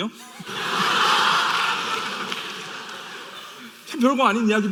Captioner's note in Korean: 웃음